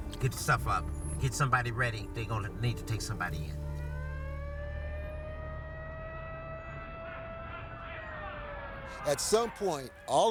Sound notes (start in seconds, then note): 3.6 siren wailing; 6.8 police yelling